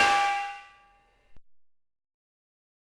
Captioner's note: banging